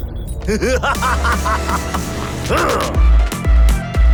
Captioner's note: man laughs hysterically